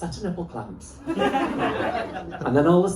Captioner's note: laughter